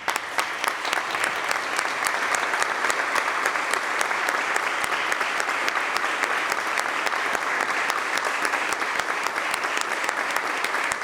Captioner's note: applause